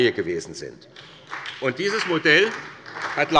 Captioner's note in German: Beifall bei Abgeordneten der SPD